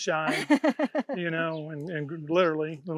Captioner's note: laughs